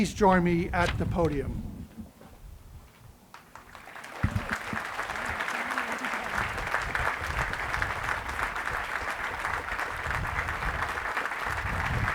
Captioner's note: applause